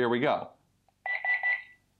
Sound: beeping

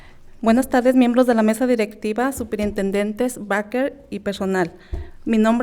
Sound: speaking in foreign language

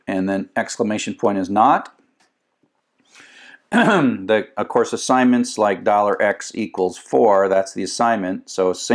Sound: cough

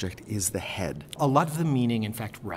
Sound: voiceover

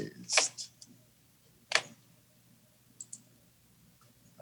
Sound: mouse clicks

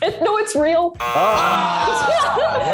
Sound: buzzer buzzes; group groans; host laughs

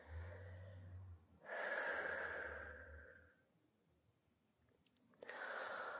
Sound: taking deep breaths

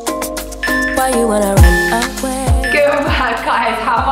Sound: timer beeping

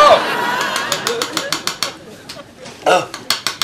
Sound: audience laughs; spoon tapping rapidly

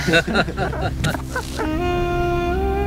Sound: laughing

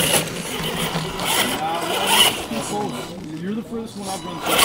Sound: engine revving

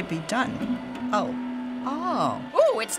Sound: machine begins calibrating

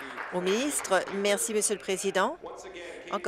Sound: applause

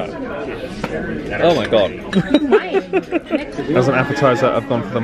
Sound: chuckles

